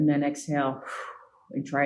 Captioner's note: exhale